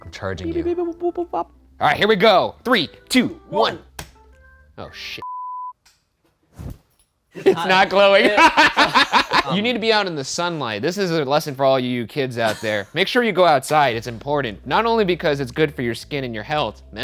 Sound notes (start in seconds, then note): 5.2 beep; 7.4 laughter